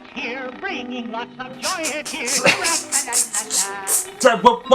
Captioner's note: snickers